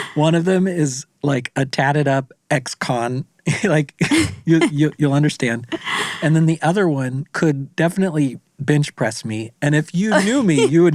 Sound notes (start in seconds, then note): 0.0 laughs; 3.4 laughs